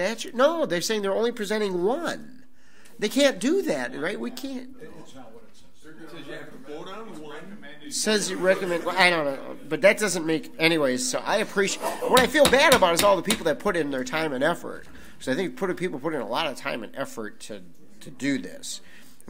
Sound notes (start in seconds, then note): 5.9 overlapping chattering; 12.1 gavel bangs